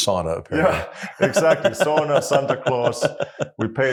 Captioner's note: laugh